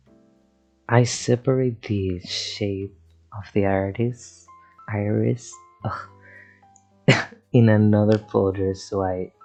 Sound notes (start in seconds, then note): 3.0 with a spanish accent; 5.0 with and american accent; 7.1 ugh